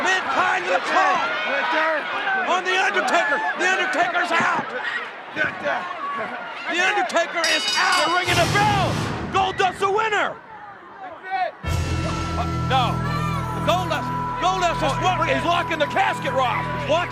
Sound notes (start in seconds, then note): 7.4 bell rings